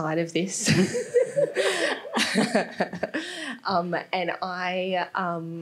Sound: all laughing

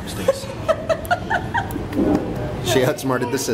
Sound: laughing

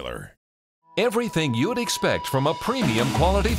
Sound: voiceover

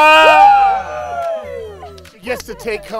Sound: cheering

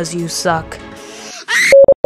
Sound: inhale

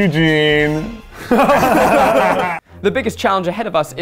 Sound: laughing

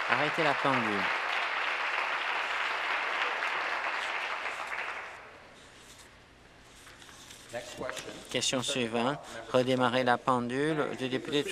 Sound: applause

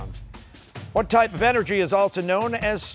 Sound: none

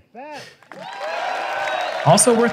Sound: applause

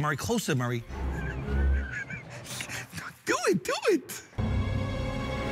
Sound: laughs

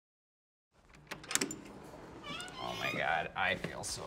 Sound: door opens

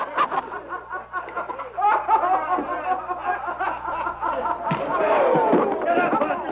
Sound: laughter

